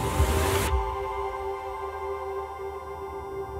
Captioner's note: Flatline